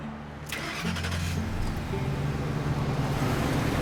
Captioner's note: engine turning